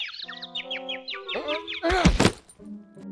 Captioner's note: birds chirping; grunt